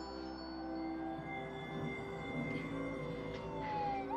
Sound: sirens wailing

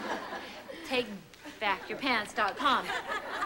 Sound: class laughs

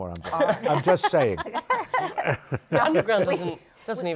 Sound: laughter

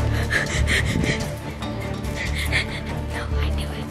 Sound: panting

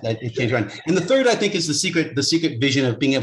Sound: laughter

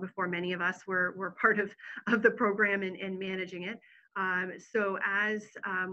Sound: chuckles

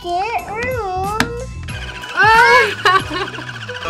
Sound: squeaking noise; laughs

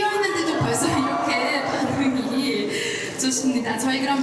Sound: cheers

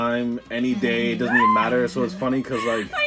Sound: squeals

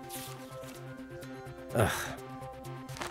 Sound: groaning

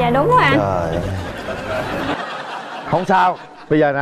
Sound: audience laugh

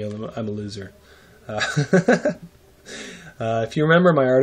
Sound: laughter

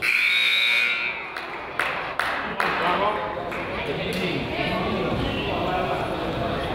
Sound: buzzer honks; crowd applauds

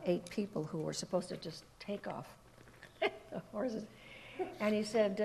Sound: laughs

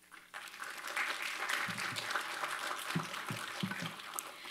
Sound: applause

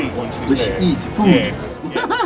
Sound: laughs

